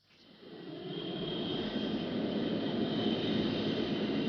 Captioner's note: plane whirring